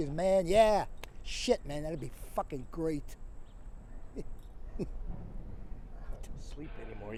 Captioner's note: chuckles